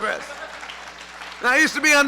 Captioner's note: laughter; applause